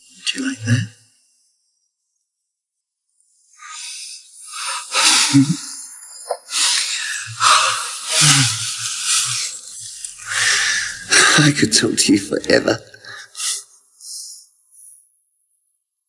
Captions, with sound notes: Would you like that? (laughs) (sighs) I could talk to you forever.